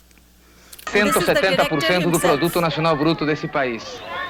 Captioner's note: speaking spanish